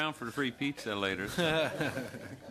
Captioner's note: laughter